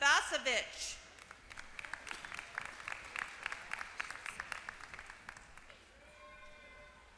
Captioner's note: applause